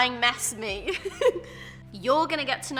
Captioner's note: laughs